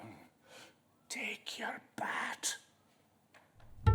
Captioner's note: whisper